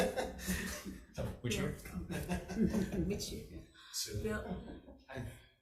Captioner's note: people laughing; laughs